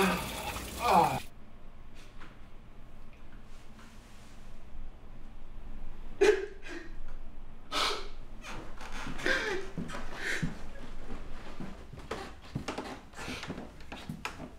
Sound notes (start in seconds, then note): 0.7 Nathan moans; 6.2 Nathan cries; 11.4 floorboards creak